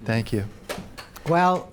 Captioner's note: clapping